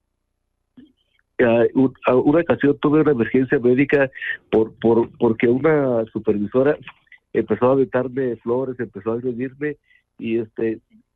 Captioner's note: speaking in Spanish